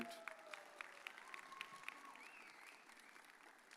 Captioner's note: audience cheers